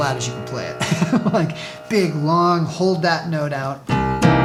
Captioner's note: laughing